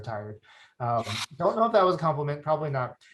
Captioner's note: chuckles